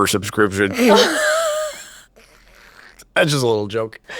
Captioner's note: laughs